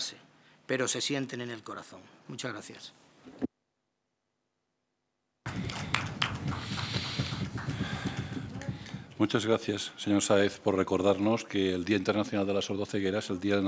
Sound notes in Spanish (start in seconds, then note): 5.4 Aplausos